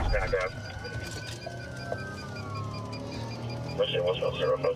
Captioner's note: sirens wailing